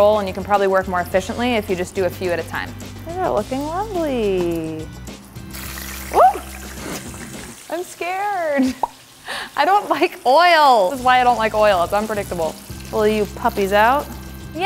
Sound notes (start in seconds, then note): 5.3 oil sizzling loudly; 7.0 laughing